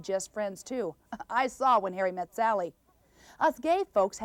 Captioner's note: chuckle